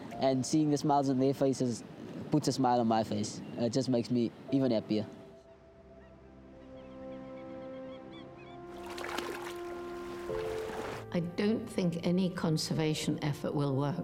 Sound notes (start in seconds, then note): 4.9 birds calling